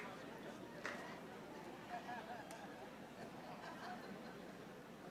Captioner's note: audience chattering